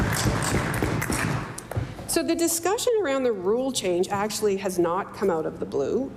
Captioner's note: applause